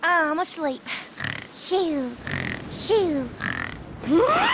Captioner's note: imitating snoring